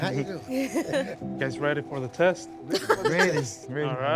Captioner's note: laughter